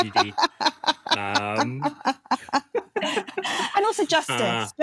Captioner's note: laugh